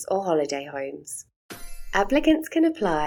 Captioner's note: chime sound